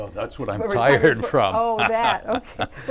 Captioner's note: laughter